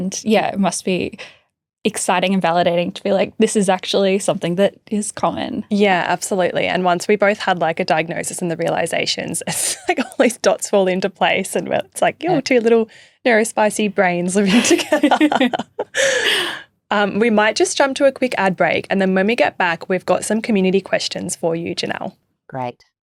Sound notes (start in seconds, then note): 9.6 chuckling; 14.5 chuckling